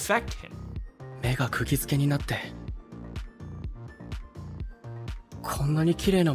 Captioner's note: character speaks in Japanese